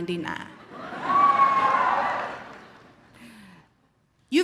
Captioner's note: audience cheers